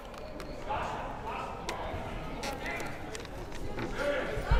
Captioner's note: crowd murmuring